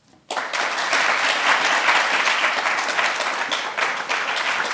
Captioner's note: audience applauding